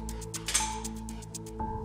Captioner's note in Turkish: Kapı açıldı